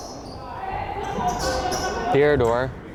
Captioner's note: crowd chattering